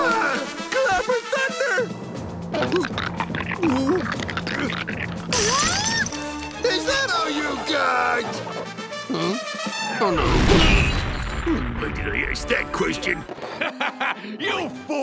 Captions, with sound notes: Clapping thunder. [groaning, crackling] Is that all you got?! Hmm? Oh, no. Why did I ask that question? [laughing] You fool!